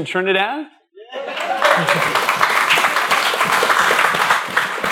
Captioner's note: applause